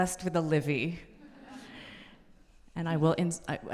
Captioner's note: audience laughing